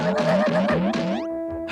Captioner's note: gasps